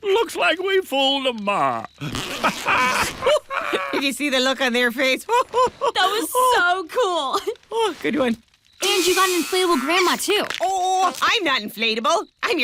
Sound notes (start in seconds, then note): 2.0 zipping